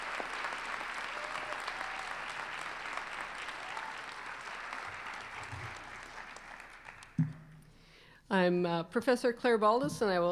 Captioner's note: applause